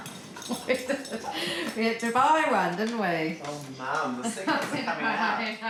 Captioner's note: laughs; laughs